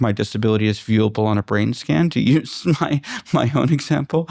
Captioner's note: laughter